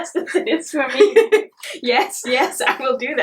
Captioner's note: laughs